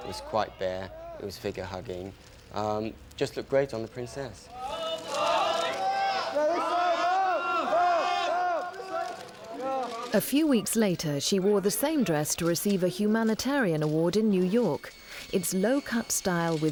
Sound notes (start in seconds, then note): 4.5 paparazzi shouting